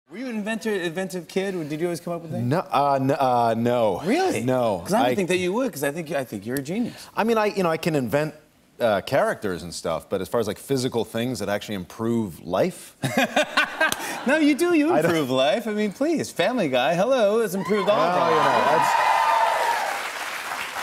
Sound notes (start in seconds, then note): 13.0 laughter; 17.6 cheers and applause